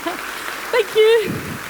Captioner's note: applause